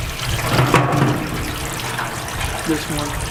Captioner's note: water running; metal clanking